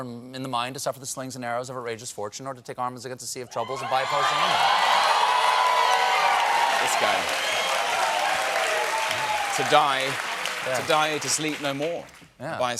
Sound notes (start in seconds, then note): 3.6 cheers and applause